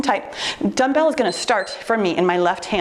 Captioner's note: timer beeps